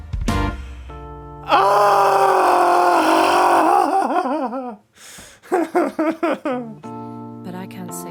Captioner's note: sad sounds